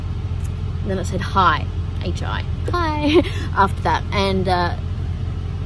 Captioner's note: laughs